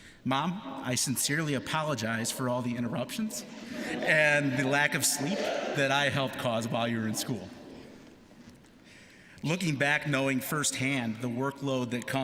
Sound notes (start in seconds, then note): 3.5 laughter